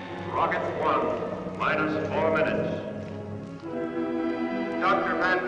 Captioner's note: loudspeaker